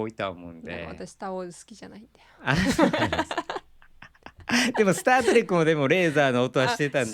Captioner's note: laughs